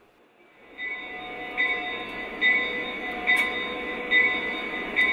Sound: train bell

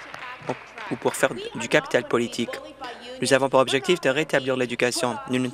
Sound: applause

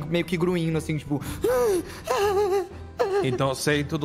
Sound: gasping

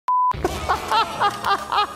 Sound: beeping; laughing

